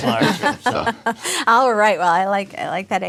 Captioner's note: laughs